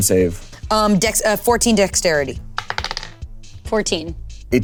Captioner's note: die rolling